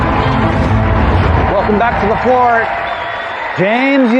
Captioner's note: dramatic music; applause